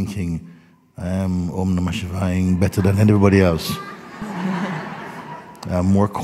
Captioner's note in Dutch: gelach